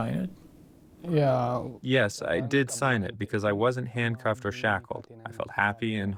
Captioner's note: through translator